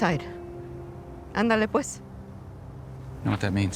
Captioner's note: speaks in a foreign language